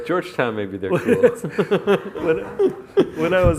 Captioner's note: laughs